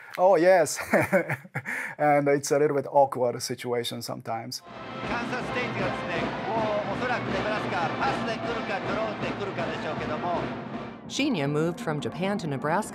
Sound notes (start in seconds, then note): 0.7 chuckles; 5.2 speaking in Japanese language